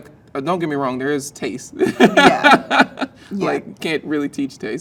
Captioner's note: laughs